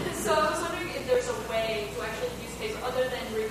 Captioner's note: audience laughing